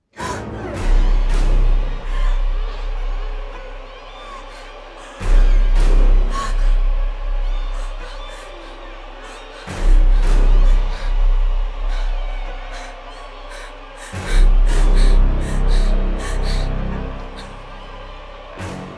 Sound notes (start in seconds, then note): 0.1 Sarah gasping; 2.1 crying